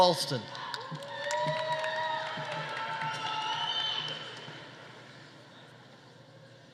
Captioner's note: audience cheering; audience applauding